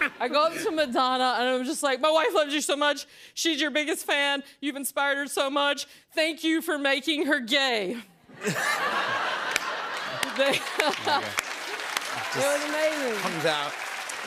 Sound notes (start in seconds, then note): 8.3 laughter